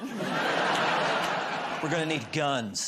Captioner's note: laughter